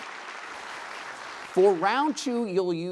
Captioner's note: applause